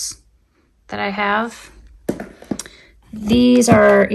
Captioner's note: item thudding